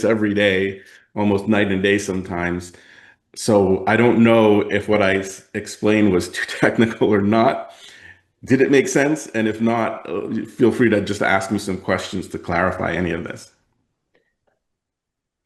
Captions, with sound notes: every day, almost night and day sometimes, so I don't know if what I explained was too (laughs) technical or not. Did it make sense? And if not, uh, f- feel free to just ask me some questions to clarify any of this.